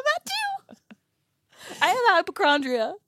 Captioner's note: laughs